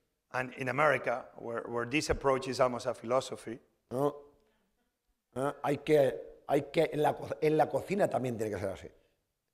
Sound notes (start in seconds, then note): 5.2 speaking spanish